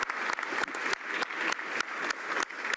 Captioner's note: some Applause